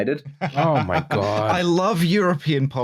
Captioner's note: laughter